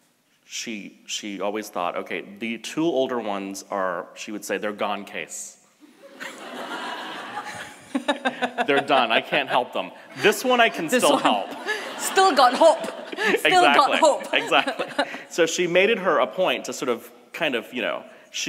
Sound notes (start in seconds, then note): 5.9 audience laughs; 6.0 laughs; 11.0 laughs; 13.1 audience laughs